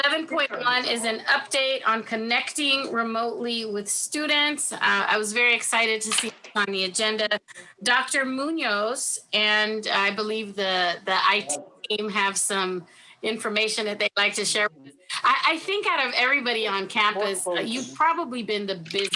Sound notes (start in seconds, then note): 14.8 faintly speaking